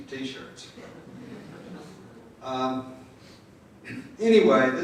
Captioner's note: crowd laughing